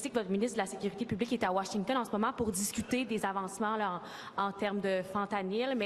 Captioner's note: speaking French